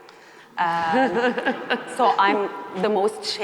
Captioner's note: chuckles